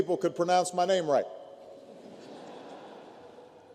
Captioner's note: laughter